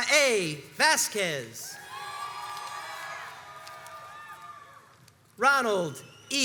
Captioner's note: crowds cheers and applauds